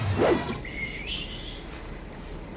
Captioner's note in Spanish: silbando